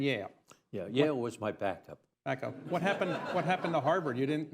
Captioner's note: laughter